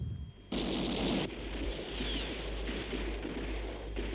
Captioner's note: guns firing